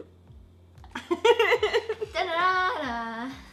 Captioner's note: laughs